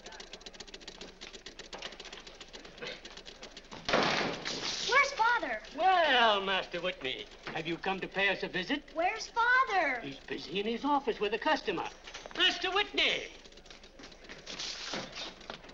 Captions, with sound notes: (machines clicking) (door slams) - Where's Father? - Well, Master Whitney! Have you come to pay us a visit? - Where's Father? - He's busy in his office with a customer. Master Whitney!